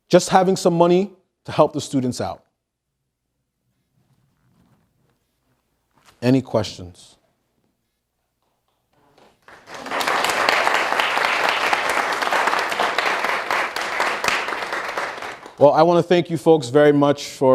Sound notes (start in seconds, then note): 9.1 audience applause